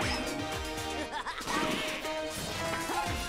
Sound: laughing

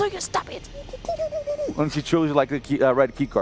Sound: muffled complaining

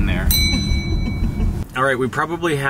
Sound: ding sound

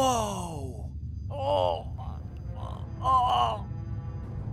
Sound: pained human groaning

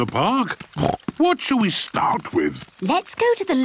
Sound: snorts

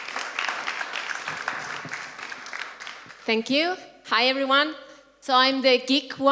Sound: applause

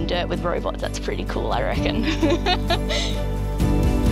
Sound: laughs

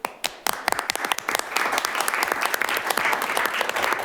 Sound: clapping

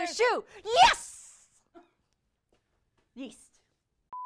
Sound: beep

